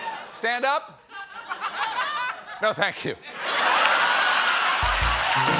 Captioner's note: applause; laughter